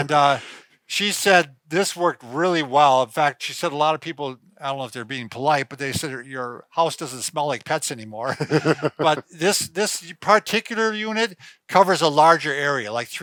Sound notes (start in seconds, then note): 0.0 laughing; 8.3 laughing